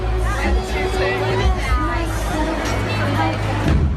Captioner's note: crowd cheering; indistinct chatter